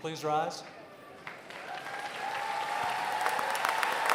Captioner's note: applause